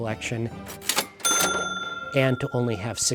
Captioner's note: cash register dinging